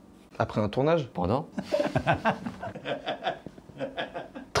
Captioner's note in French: rire